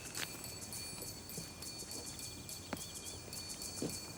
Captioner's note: suspenseful music; footsteps tapping